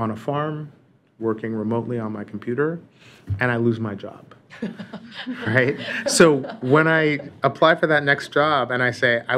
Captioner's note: laughter